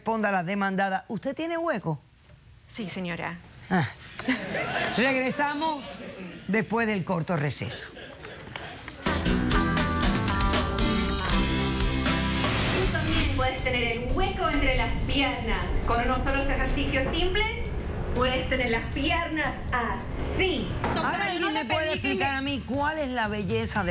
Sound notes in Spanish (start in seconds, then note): 4.2 risas